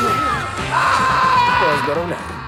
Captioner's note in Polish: Natalia krzyczy